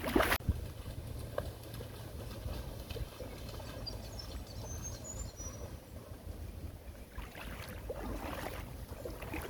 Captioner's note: water flowing